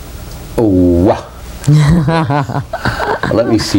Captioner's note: laughs